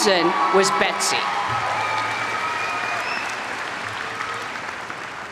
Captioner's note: audience applaud